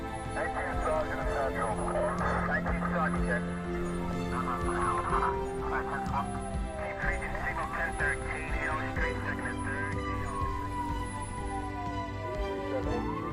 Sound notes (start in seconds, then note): 0.3 first responders chattering on the radio; 4.7 inspiring music; 7.7 siren wailing